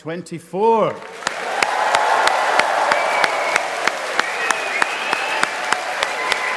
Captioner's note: audience cheering and applauding